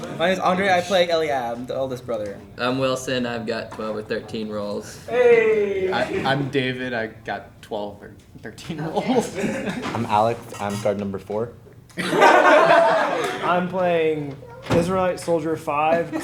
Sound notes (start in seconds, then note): 11.9 group laughing